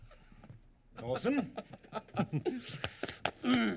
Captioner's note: laughing